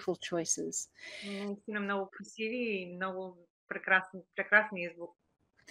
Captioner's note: foreign Language Spoken